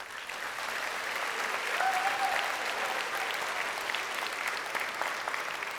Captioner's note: crowd applauding